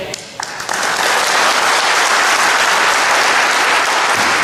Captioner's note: audience applauds